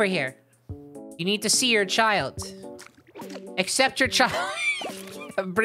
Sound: laughing

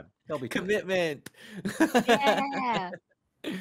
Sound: laughs

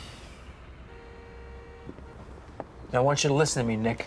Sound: car honking

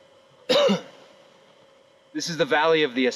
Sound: coughs

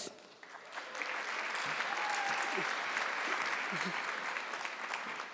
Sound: audience clapping

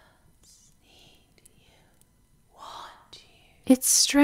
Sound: the whispers suddenly hiss around and into her words

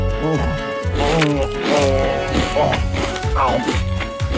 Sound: straining

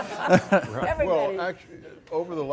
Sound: audience laughing; laughs

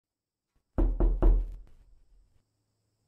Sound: knock knock knock

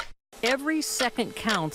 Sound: clock ticking

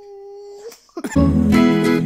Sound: kissing sound

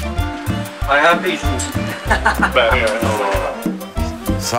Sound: laughs

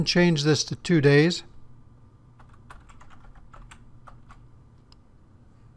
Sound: typing

